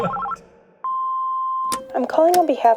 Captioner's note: answer machine beeps; phone ringing